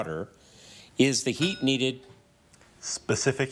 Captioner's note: bell dings